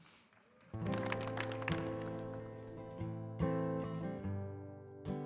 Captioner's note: audience applauding; guitar strumming